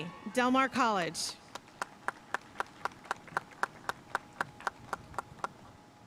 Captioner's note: audience cheering and applauding